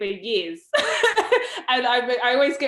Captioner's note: laughs